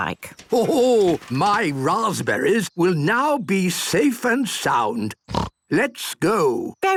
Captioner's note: snort